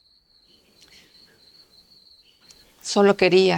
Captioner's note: crickets chirping